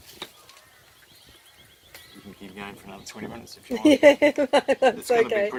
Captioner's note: laughs--That's ok